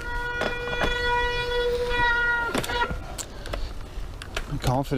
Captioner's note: bicycle brakes squealing